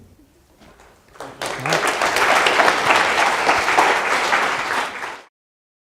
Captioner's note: applause